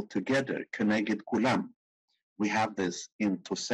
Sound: speaking in foreign language

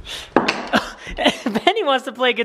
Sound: laughs

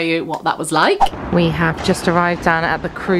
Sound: screen whooshing

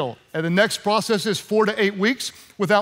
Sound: none

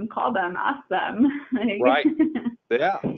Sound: chuckling

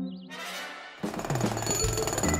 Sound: jackhammering

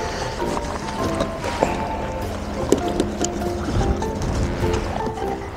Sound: laughs

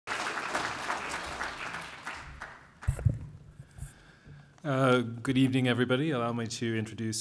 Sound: applause

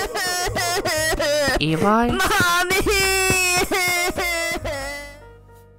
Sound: eli crying; crying

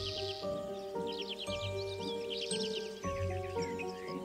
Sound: mysterious music; birds chirping

